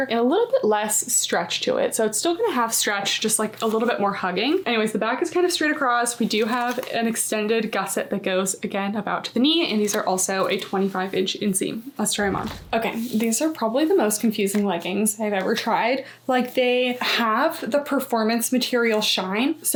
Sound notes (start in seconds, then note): 12.1 graphic whooshing